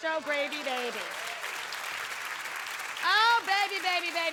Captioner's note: audience cheering and clapping